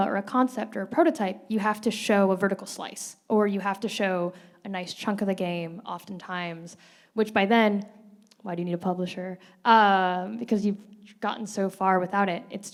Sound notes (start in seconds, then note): none